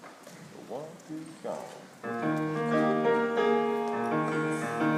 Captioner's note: speaking faintly; gentle music